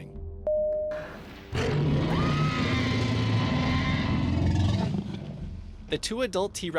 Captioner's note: T-Rex roaring